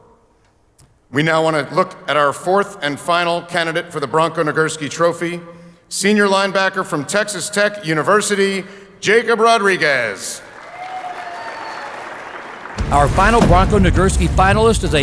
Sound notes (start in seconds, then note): 10.4 audience cheers